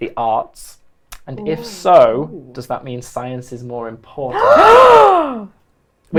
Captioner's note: loud gasps